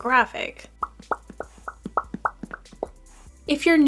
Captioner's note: popping sounds as shows appear